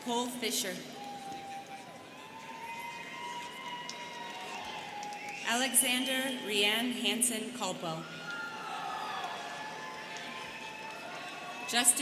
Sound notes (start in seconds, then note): 0.9 students cheering; 8.0 students cheering